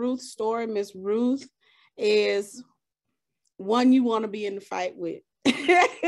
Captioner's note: chuckles